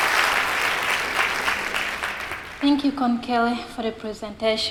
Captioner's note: applause